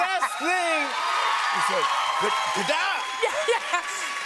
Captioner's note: cheers and applause